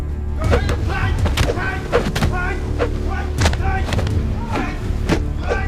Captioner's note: men grunting; whooshing